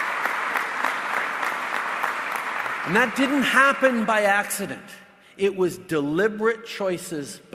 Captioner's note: applause